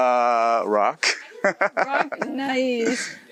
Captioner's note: laughs